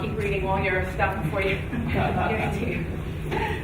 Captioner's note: chuckling